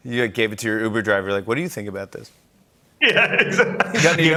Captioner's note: laughter